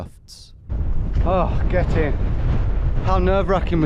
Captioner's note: wind blowing